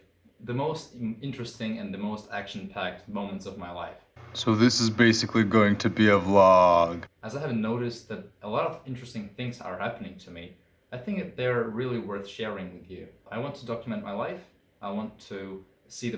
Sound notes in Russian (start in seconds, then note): 4.2 занудным голосом